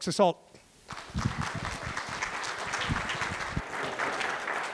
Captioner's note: applause